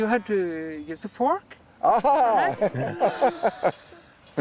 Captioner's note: chuckles